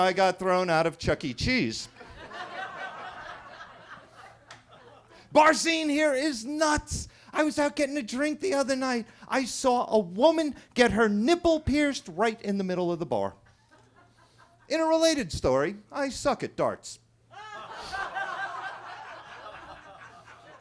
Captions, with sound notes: I got thrown out of Chuck E. Cheese. (attendees laughing) Bar scene here is nuts. I was out getting a drink the other night. I saw a woman get her nipple pierced right in the middle of the bar. (attendee laughing) In a related story, I suck at darts. (attendees laughing)